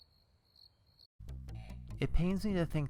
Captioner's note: crickets